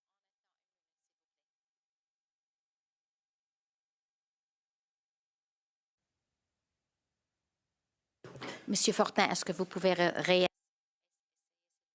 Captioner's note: speaking French